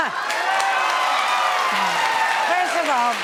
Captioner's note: audience applauding and cheering